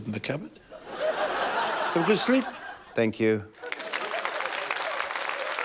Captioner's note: laughter; applause